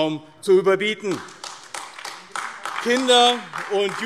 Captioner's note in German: Beifall AfD